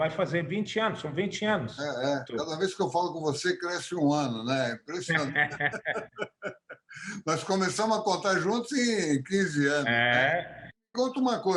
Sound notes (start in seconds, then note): 5.1 laughter